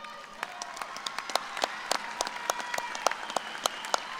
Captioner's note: applause